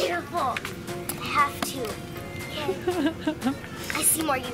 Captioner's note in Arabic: ضحك